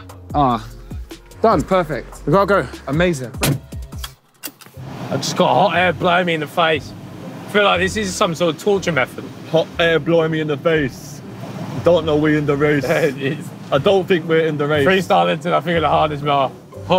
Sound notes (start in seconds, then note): 3.3 car door slamming closed